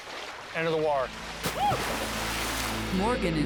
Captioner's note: water splashes